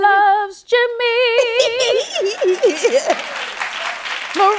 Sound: laughs

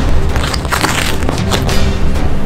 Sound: wrapper crackles; suspenseful music

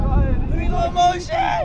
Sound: crowd cheering; crowd yelling

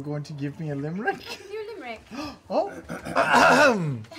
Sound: gasps; false throat clear

